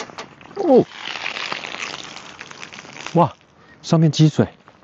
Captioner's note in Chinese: 流水聲